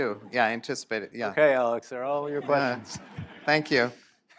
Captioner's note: laughter